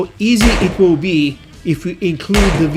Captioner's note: pistol firing